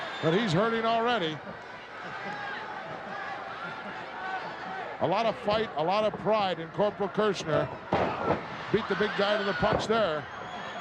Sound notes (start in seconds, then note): 1.7 crowd yelling